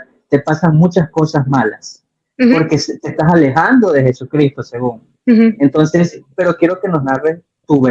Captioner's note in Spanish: carraspeo